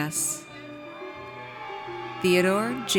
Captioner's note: audience cheers